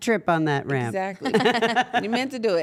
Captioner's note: laugh